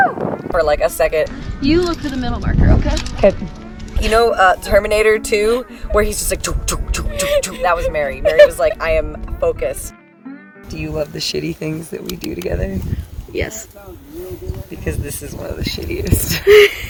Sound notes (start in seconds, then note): 6.3 makes running noises; 16.1 laughs